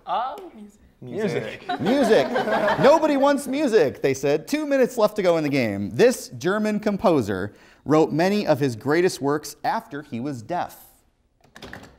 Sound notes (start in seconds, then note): 1.4 laughs